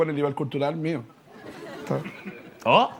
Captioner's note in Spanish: Risas